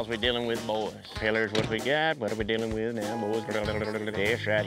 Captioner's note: practicing auction chant